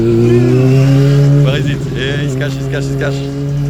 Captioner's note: engine roaring